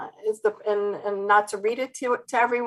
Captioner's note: stuttered speech